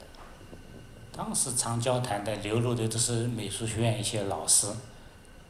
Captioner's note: Mandarin; Mandarin